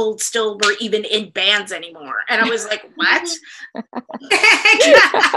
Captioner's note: laughter